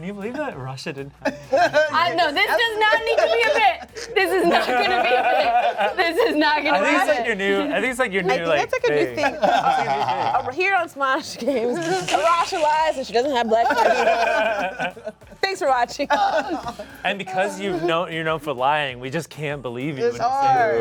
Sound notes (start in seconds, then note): 4.4 laughs; 14.3 cast laughs